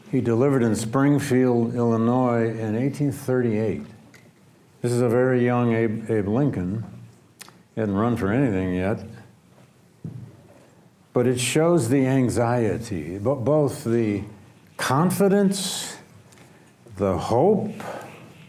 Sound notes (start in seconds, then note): none